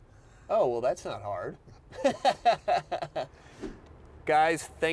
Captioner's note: laughing